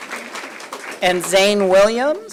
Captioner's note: applause